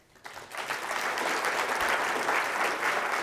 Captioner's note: applause